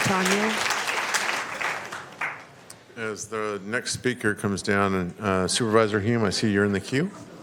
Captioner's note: applause